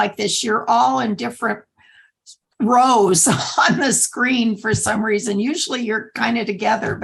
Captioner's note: laughter